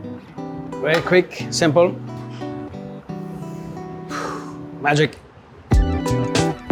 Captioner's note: sighs; upbeat music